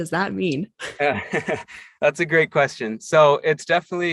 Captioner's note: laughs